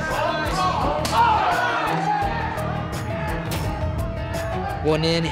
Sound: kick landing

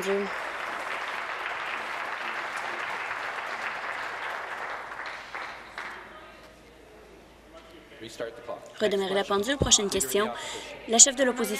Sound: applause

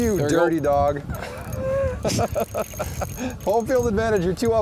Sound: laughs

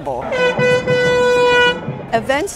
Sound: honking

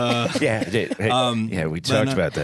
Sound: all laugh

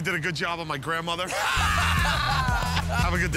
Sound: laughter

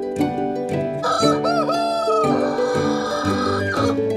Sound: rooster caws

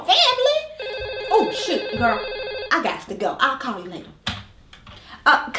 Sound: phone rings

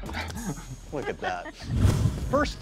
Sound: chuckles; Kathryn laughing

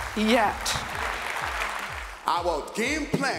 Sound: applause

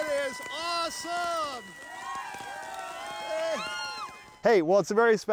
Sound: people cheering

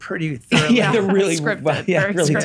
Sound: laughs

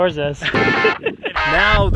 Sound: laughing

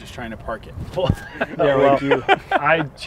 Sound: laughter

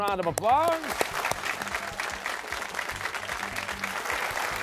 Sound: applause

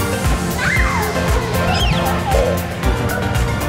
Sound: screaming

